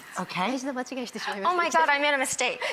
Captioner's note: Marie speaking Japanese